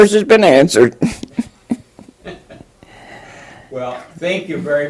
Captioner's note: laughter